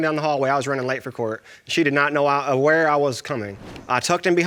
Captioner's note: stutters